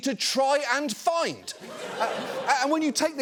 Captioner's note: studio audience laughing